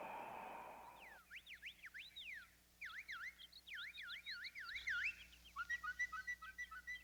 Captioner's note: bird chirping